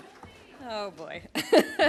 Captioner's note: applause